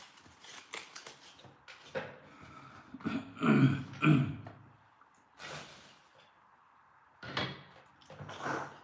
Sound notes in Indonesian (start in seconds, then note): 3.0 berdehem; 3.0 batuk